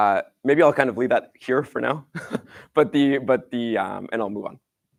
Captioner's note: laughs